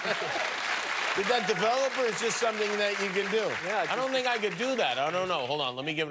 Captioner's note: cheers and applause